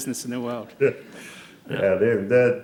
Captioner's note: laughter